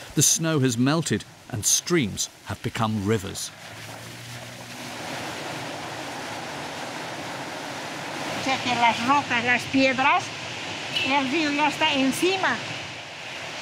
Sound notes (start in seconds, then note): 5.1 water whooshing; 8.7 speaking in foreign language